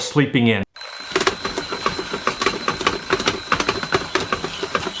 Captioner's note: alarm ringing